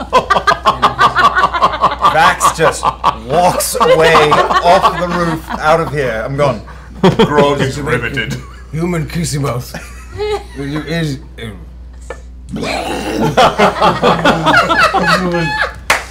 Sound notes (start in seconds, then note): 12.4 vomits; 13.1 laughter